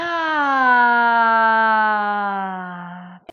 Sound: sighs

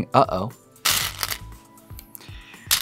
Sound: stones rattling; stones rattling

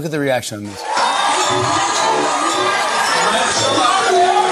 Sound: audience cheering

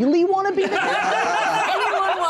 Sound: laughing

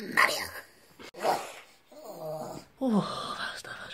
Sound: grunting

